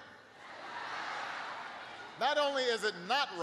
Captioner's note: laughter